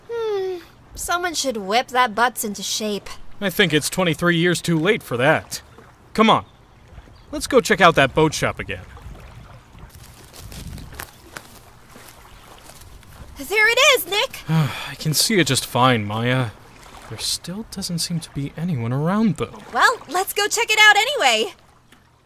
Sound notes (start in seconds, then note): 9.1 footsteps, leaves rustling; 14.4 sigh